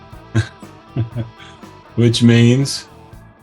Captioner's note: laughs